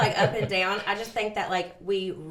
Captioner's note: laughs